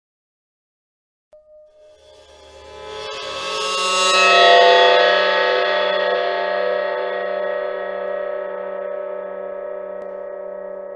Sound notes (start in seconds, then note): 0.0 horror screech